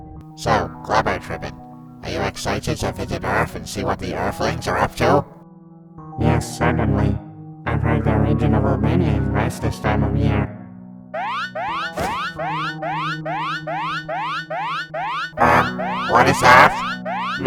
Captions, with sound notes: So...Glabotribin', are you excited to visit earth and see what the earthlings are up to? Yes, certainly! I've heard their region of "Albania" is nice this time of year! (An Alarm noise plays) Uhh! What is that?!